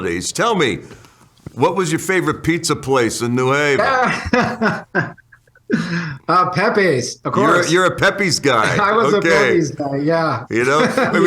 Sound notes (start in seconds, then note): 3.5 laughs